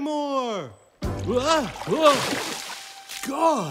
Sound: water splashes

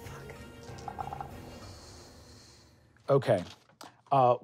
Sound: dice rolling

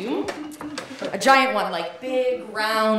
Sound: audience laughing

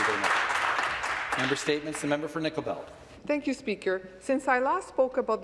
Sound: some Applause

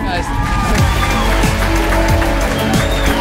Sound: cheering; dance music

